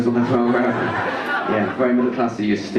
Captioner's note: audience laugh